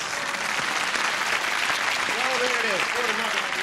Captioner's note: applause